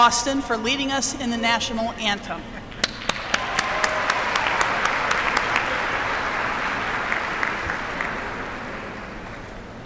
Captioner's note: applause